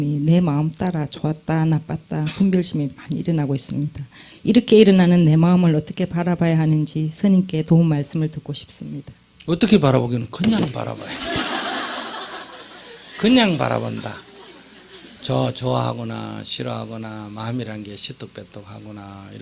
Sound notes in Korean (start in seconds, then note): 10.7 청중웃음